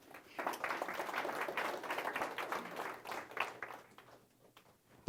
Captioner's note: audience applauding